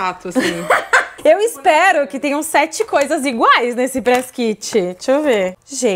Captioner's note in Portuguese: risos